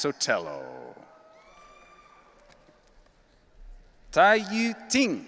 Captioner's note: audience cheering